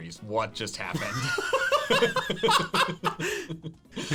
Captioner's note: laughing